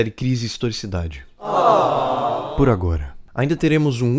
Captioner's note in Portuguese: claque se decepciona